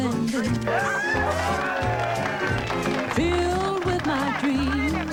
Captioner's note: cheering